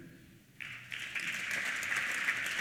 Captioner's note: applause